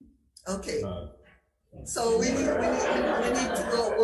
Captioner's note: attendees laughing